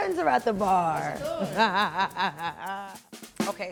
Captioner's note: laughing